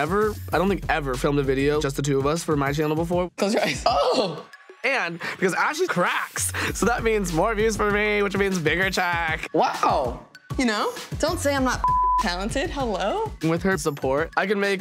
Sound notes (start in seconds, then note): 11.8 beeps